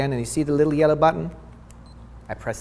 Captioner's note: beep